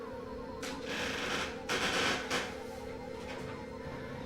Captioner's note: creaking